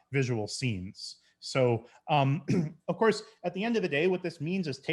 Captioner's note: clears throat